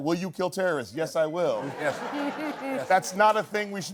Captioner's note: laughter